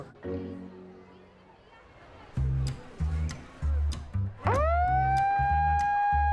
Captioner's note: siren wails